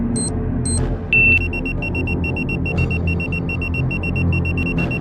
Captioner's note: detonator beeps